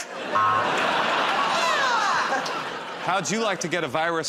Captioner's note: laughter